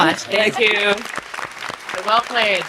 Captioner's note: audience applauding